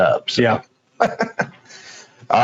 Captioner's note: laughs